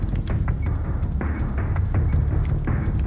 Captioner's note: beeping